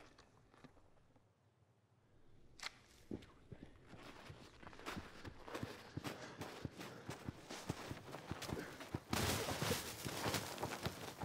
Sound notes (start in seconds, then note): 6.8 footsteps running